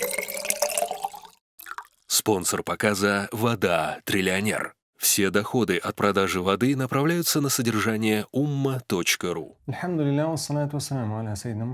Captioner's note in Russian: Говорит на арабском